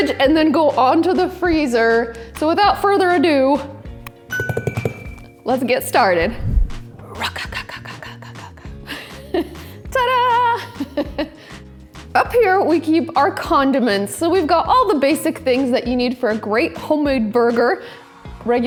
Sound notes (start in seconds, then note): 4.0 tapping; 9.2 laughs